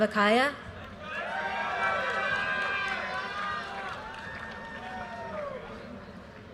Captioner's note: audience cheers and applause